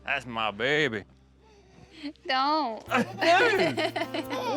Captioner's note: laughs